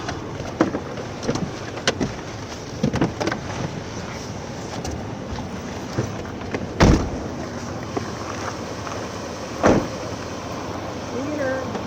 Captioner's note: doors opening and closing on cars